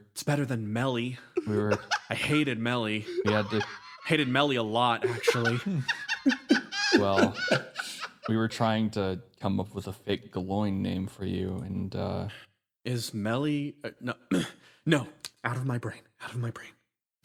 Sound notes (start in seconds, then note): 5.9 laugh